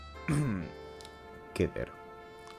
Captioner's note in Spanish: se aclara la garganta